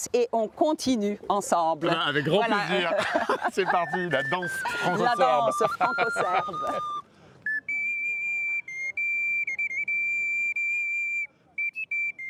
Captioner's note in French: rires